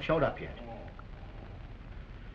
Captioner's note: groaning